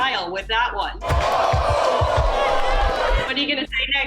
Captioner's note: crowd cheering